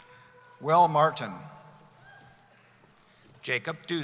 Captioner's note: none